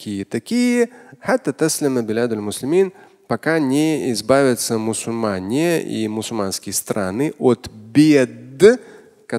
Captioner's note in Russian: Говорит на арабском